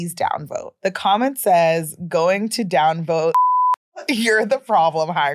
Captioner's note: beeping